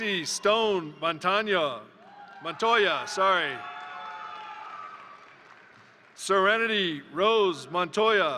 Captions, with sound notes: Jessy Stone Montoya, (crowd cheering) (crowd applauding) Serenity Rose Montoya,